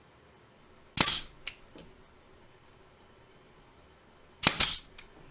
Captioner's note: nail gun thuds